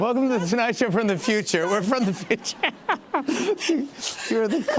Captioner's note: laughs